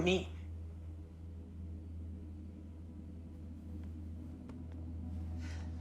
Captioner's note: tense music; crickets chirping; Claire sighs